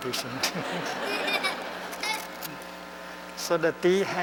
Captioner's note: laughter